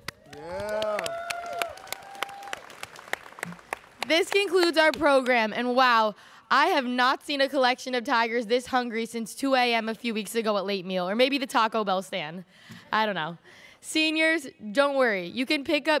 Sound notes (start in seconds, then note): 2.0 students cheering